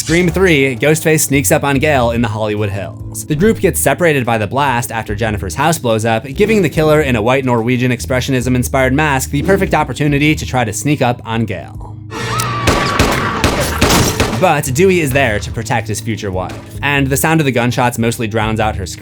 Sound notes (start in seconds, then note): 12.1 screams